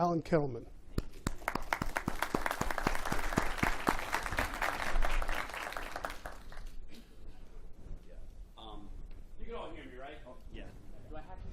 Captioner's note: applause